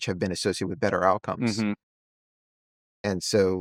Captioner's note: hums